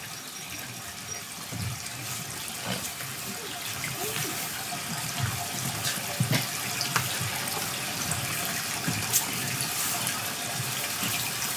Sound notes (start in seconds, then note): 2.3 water trickling continues